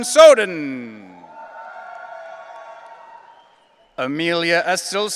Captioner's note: audience cheering